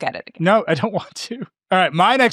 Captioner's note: chuckling